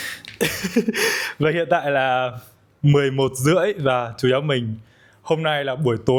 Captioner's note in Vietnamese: tiếng cười